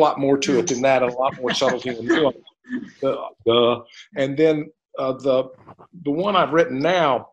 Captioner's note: laughter